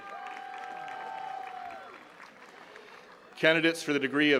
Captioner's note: attendees cheering and clapping